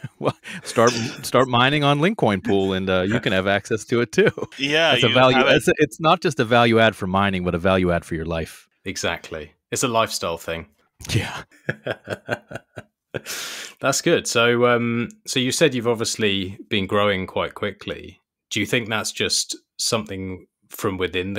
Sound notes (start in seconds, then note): 11.6 both laughing